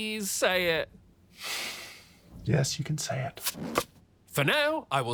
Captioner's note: sighs